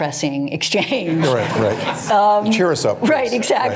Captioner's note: laughter